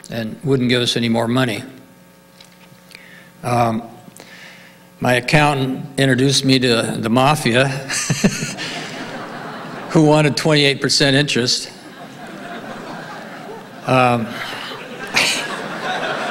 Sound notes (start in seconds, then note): 8.4 laughs; 11.7 audience laughing